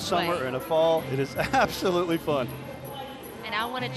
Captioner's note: chuckles